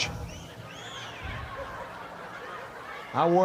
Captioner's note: audience cheering